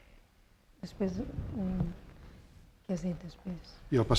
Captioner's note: speaking spanish